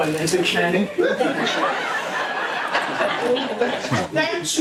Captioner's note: laughter